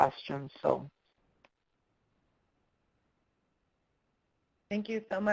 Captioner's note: pause